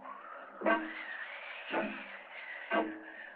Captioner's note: wind whooshing